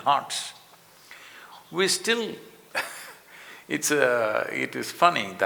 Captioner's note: laughs